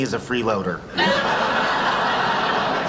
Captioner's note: laughing